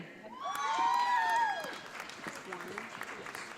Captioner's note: audience applauding